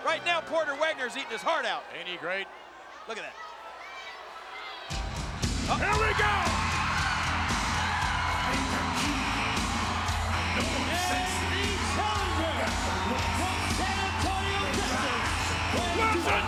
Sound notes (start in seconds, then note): 6.9 audience cheering; 6.9 upbeat music